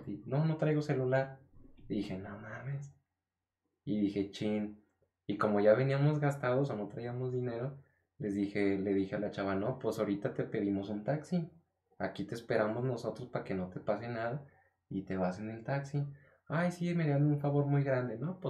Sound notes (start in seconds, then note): none